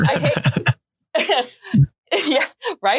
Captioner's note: everyone laughing